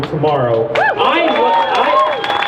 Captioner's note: crowd cheers